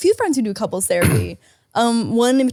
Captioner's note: Nick clears his throat